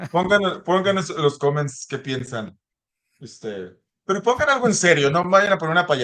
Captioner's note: laughs